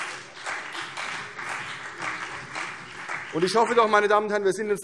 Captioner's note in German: Beifall CDU und BÜNDNIS 90/DIE GRÜNEN